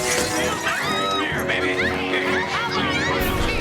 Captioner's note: glasses shattering; woman screaming; dramatic music